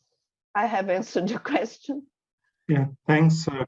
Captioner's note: chuckles